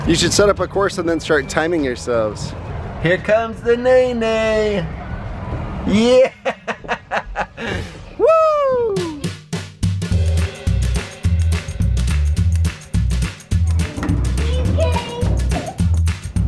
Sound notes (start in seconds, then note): 5.9 laughing; 9.0 upbeat music